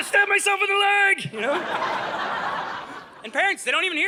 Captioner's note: audience laughing